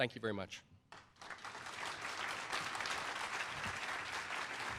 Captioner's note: applause